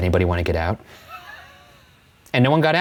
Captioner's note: laughs